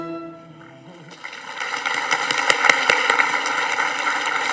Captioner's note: audience applauding